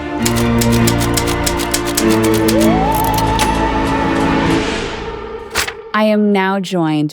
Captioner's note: typewriter clicking; spooky music